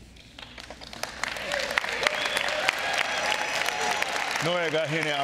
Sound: audience clapping and cheering

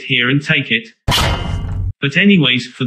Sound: clang!

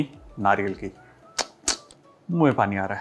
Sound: mouth click

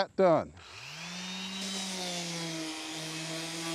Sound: sander buzzing

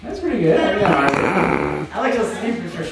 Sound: cameraman snorts

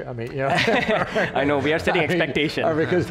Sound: laughing

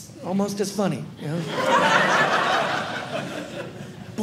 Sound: audience laughing

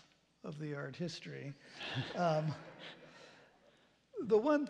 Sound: laughter

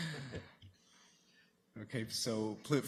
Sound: chuckling

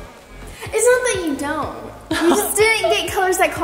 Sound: giggling

